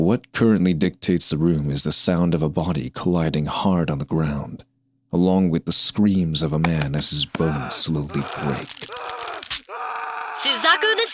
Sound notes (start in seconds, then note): 7.3 bones breaking; 10.5 intercom